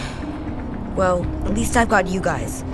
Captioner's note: sighs deeply